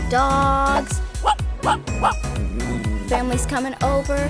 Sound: dog barking

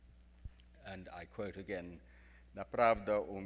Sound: speaks in foreign language

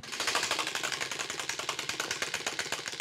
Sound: wheel clacking

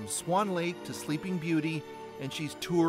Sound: speaking Russian

